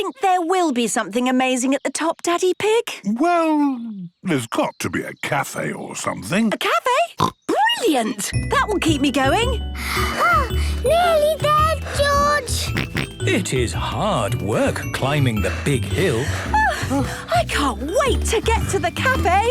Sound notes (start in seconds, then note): 7.2 snorts; 9.6 panting; 12.6 snorts